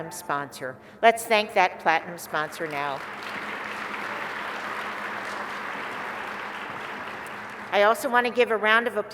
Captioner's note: applause